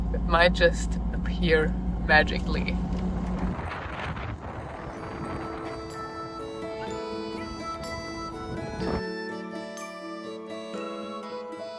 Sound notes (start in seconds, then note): 3.4 wind blowing; 4.7 lively music